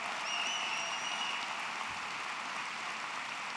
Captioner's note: applause